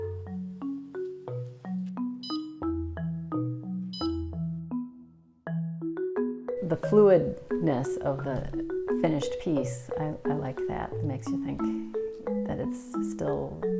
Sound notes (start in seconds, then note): 1.0 beeps